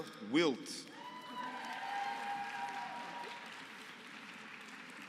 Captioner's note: applause